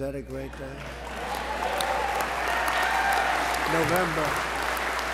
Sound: applause

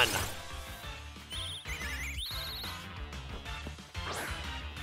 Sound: bird tweeting

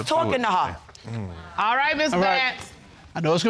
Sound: sighs in exasperation

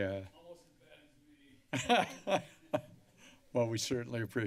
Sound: laughs

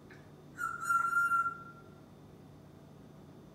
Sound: tweeting sound

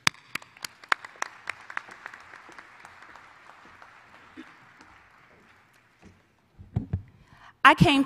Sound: applause

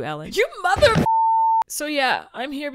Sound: long beep

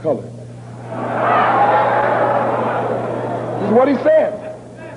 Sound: roaring

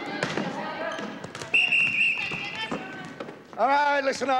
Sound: whistle blowing

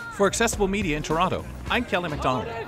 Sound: voiceover

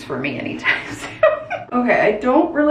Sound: laughing

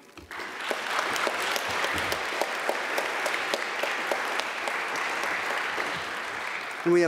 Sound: applause

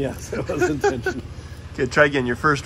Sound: laughs

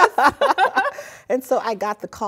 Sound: laughter

